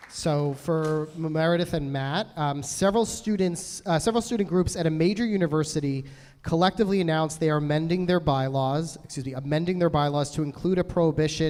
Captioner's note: applause